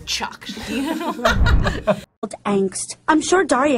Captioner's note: laughing